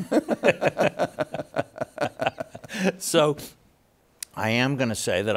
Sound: both laughing

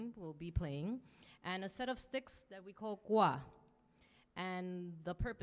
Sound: speaks in Spanish

